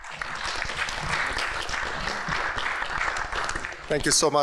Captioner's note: applause